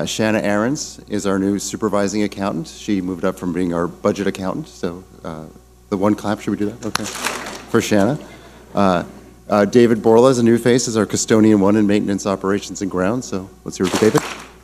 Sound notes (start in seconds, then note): 6.8 clap smack; 13.8 clap smack